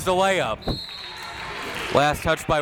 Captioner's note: whistle tweeting